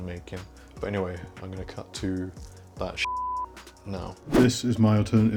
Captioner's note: beep